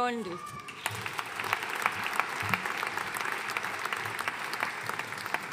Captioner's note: audience applauding